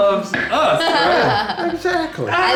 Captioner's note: laughs